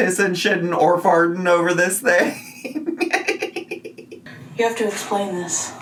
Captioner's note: laughs